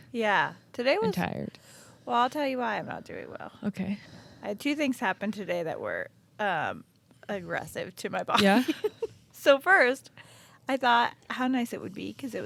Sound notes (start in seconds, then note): 7.9 laughing